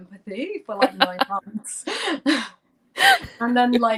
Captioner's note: laughter